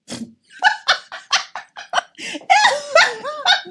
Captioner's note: laughs loudly